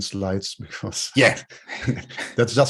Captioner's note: chuckles